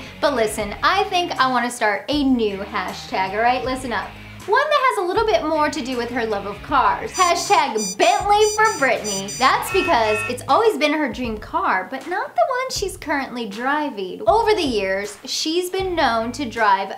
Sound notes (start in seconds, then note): 7.1 graphics blipping; 9.8 Bentley honking